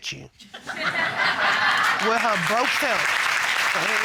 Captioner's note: audience laughing, applauding